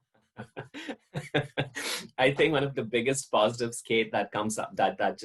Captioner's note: laughs